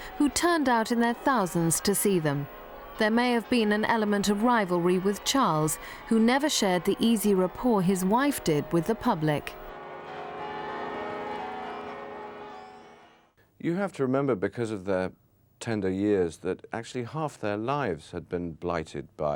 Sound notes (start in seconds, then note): 10.2 bells ringing